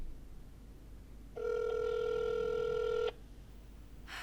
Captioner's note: line ringing